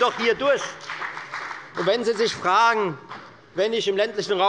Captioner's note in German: Beifall bei der FDP